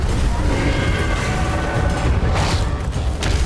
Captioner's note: a sickening crunch; beast roars